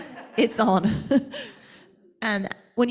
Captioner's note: and audience members laughing